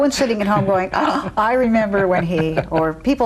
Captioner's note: gasps